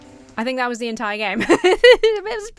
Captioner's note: laughs